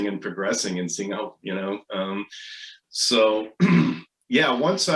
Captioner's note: clears throat